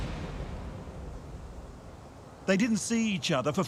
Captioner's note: dramatic music; wind gushing